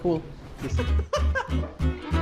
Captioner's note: laughs